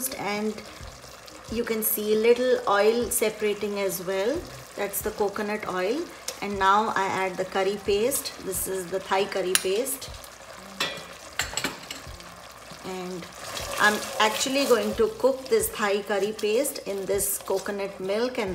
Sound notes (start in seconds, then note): 10.3 simmering; 10.8 dishes clinking